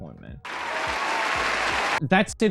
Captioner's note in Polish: aplauz